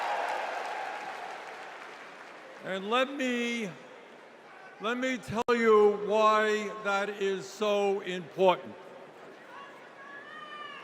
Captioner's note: cheers and applause